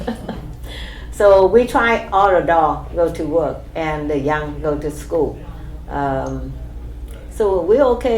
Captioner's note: laughs